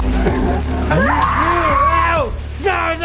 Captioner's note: screams